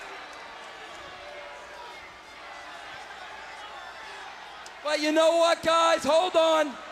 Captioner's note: crowd chatter